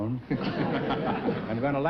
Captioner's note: chuckling